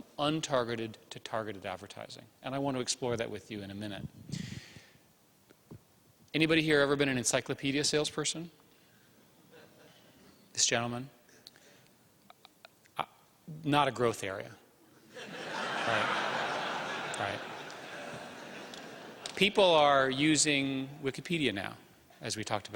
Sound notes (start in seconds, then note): 15.1 laughter